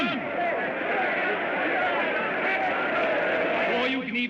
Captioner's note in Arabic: صخب الحشد